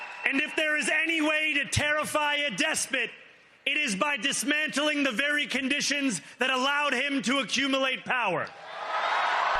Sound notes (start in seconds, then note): 1.7 cheers and applause